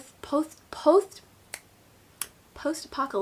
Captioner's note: snaps